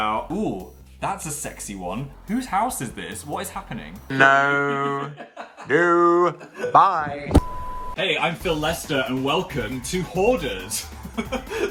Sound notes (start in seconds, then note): 4.1 laughs; 7.3 beep; 8.4 snazzy music; 11.1 laughs